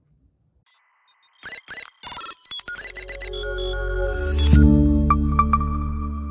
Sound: bright music; electronic beeping

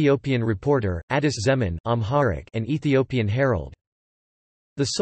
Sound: Amharic

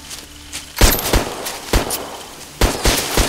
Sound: gun shots and screams

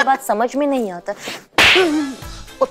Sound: slapping

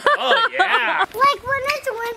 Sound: laughing

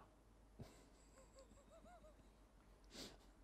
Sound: chuckles

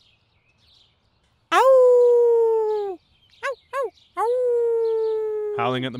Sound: howling

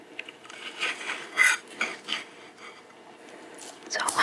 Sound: knife scraping

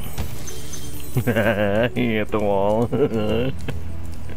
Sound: laughing

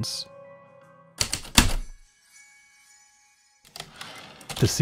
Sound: typewriter keystrokes, return slide

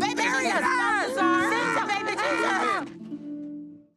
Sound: shouting frustratingly

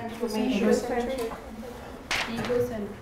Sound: students mumbling

